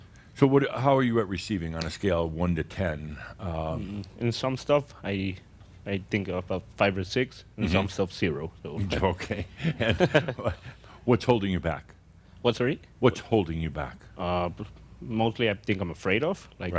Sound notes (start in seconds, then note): 8.8 they chuckle